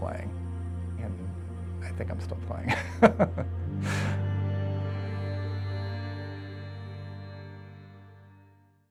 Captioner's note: laughs